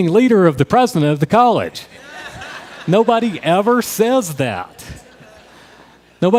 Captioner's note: crowd Laughter